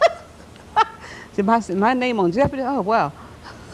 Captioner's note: laughter